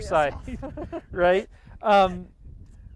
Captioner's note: chuckling